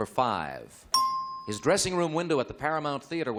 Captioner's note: ding